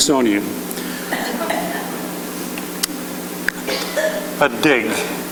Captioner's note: chuckling